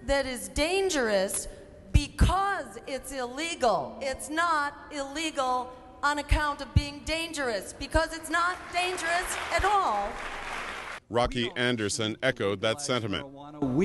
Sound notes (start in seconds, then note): 8.5 cheering and applause